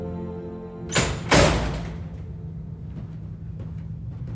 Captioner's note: door clicking